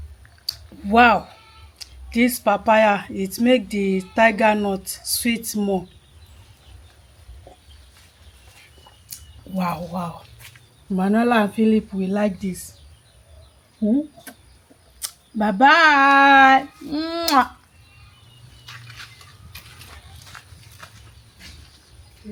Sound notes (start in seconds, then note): 15.0 kisses